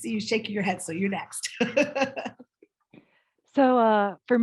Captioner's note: chuckles